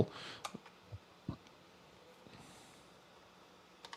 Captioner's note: keyboard clicking